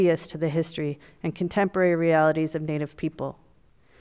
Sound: none

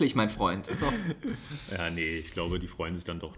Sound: laughs

